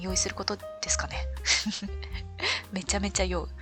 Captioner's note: laughs